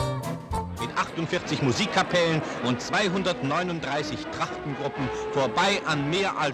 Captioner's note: German TV-Broadcast